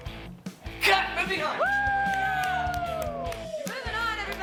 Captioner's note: claps